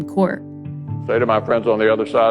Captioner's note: soundbite of archived recording